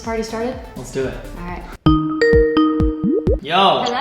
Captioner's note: Skype phone call ringing